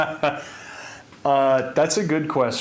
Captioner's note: presenter laughing